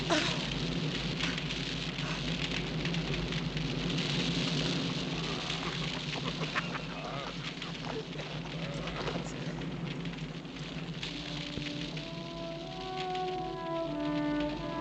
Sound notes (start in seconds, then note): 5.4 men laughing; 10.3 melancholic music